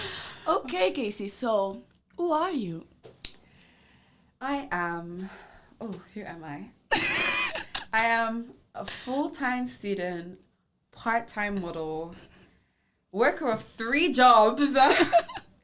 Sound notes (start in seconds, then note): 6.9 laughs